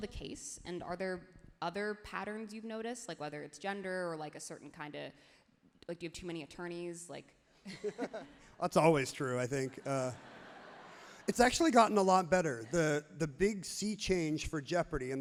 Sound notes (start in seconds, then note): 7.7 both laughs happily; 9.4 crowd laughs happily